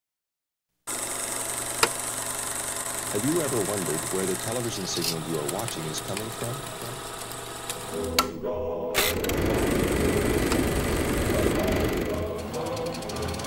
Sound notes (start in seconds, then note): 0.9 projector clicking